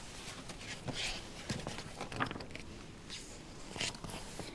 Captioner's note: flips page